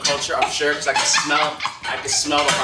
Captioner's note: laughing